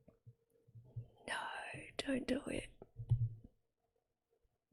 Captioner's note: whispers